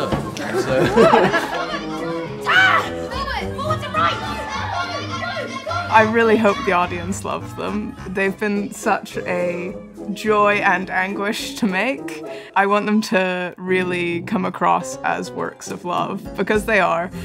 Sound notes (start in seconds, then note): 0.3 laughing; 4.4 kids cheering